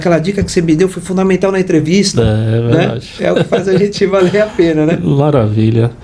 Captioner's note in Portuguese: risadas